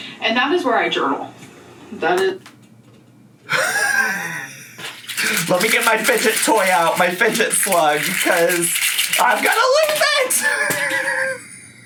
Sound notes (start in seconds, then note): 3.4 laughs; 10.0 laughs